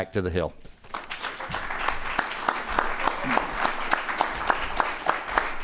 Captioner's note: audience applauding